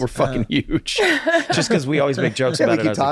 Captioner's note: laughs